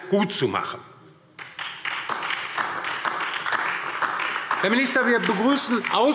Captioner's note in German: Beifall DIE LINKE und SPD